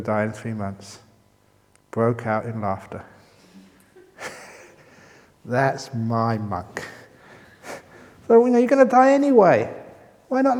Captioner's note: chuckle